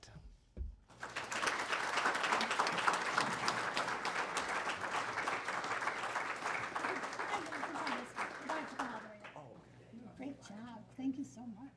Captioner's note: applause